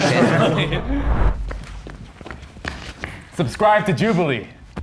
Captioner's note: contestants laughing